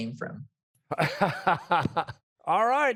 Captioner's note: laughs